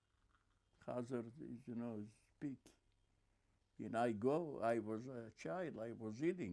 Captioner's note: yiddish